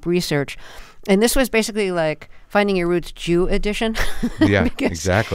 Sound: laughter

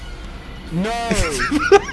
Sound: laughing

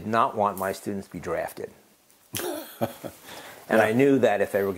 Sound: laugh

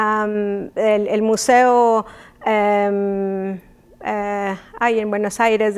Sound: speaking in Spanish

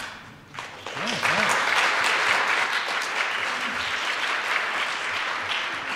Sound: applause

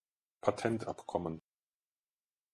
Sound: fast Pronunciation

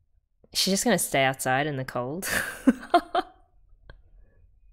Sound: laughs

